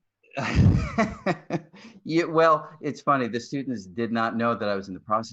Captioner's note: laughs